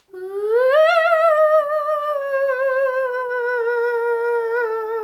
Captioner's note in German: heult schaurig wie ein Gespenst